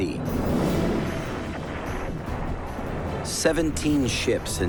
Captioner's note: cannon fire